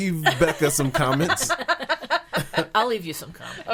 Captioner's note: laughing